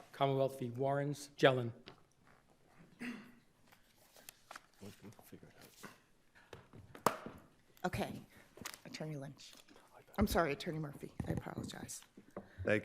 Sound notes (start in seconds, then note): 6.8 gavel bangs